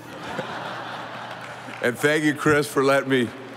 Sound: audience laughing

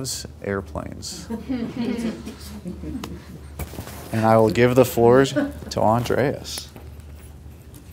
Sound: laugh

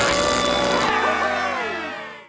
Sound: cheering

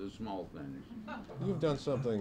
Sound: audience chuckles

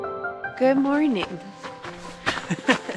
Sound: giggles

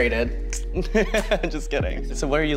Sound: laughs

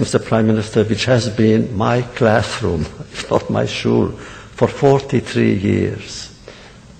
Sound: laughs

